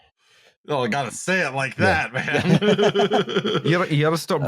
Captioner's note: chuckles; laughter